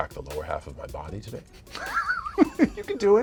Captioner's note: laughter